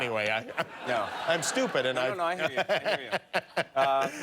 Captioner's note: laughter